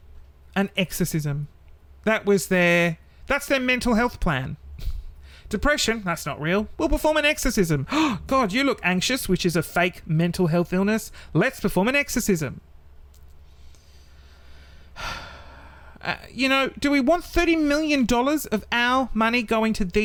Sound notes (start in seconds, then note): 14.5 deep sigh